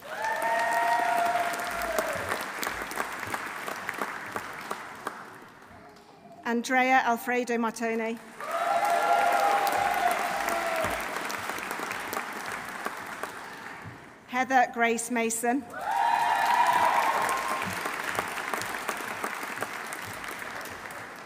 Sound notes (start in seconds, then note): 0.0 audience cheering; 0.0 audience applauding; 8.2 audience applauding; 8.4 audience cheering; 15.7 audience cheering; 15.8 audience applauding